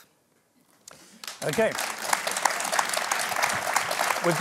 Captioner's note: applause